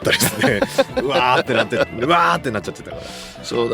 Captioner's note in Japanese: 笑い